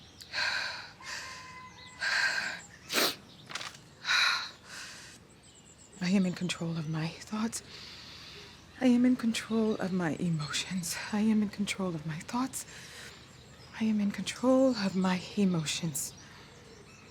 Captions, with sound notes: [breathing deeply] [sniffling] I am in control of my thoughts. [inhales] I am in control of my emotions. I am in control of my thoughts. I am in control of my emotions.